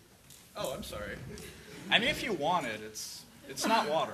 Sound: voiceover

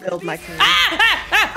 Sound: laugh

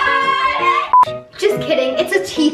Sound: beep

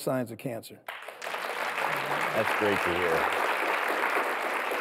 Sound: audience applauds

